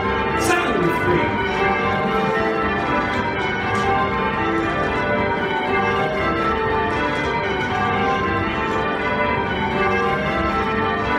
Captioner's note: Devon call change ringing